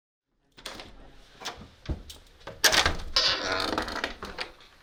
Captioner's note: door whirring